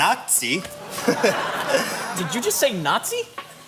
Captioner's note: chuckles